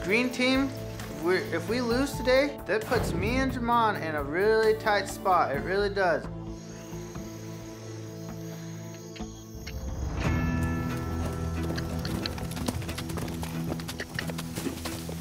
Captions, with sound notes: THE GREEN TEAM, IF WE LOSE TODAY THAT PUTS ME AND JAMON IN A REALLY TIGHT SPOT; IT REALLY DOES. [CRICKETS CHIRPING] [HOOFBEATS]